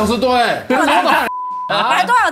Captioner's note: laughs